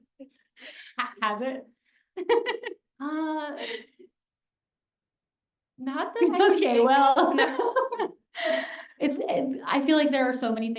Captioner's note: laughs